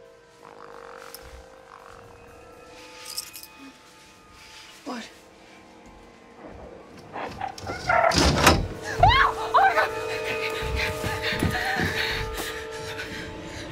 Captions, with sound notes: [croaking] What? [screams] Oh, my God! [gasping]